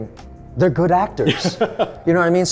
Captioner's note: laughing